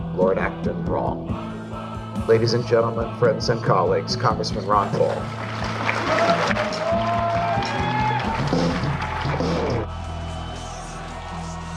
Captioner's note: applause